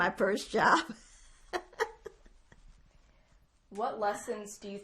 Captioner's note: laughing